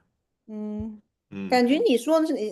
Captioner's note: nonverbal grunt as interjection